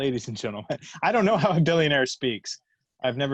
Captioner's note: laughs